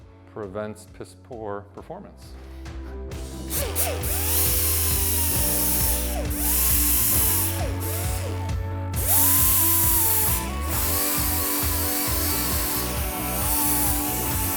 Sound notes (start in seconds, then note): 2.9 machine sound